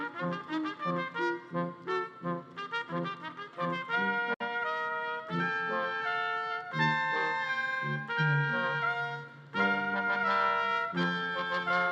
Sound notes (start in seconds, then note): none